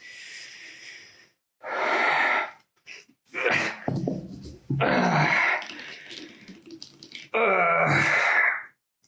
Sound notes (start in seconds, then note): 4.7 Richard groans; 5.7 blood spatters